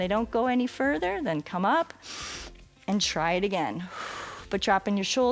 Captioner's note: exhales